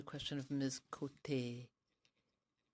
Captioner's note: speaking french